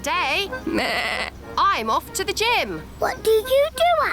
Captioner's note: bleats